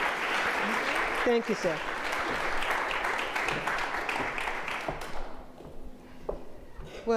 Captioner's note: audience applauding